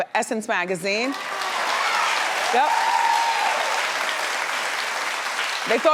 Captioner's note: audience cheering